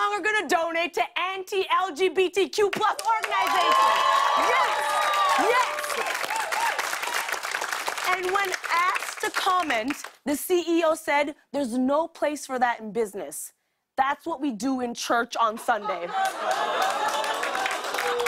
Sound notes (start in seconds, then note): 2.9 cheers and applause; 16.4 groaning, applause